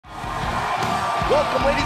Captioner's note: crowd cheering